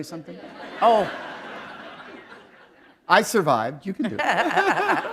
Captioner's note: laughter